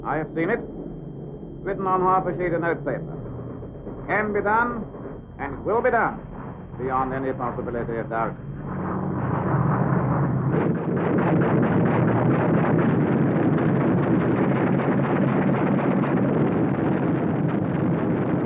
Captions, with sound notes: I have seen it, written on half a sheet of note paper. Can be done, and will be done beyond any possibility of doubt. (rapid gunfire) (explosions)